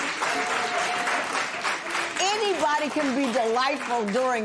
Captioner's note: applause